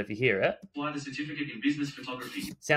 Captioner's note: voiceover